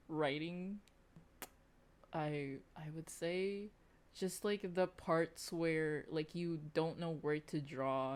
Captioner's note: clicks tongue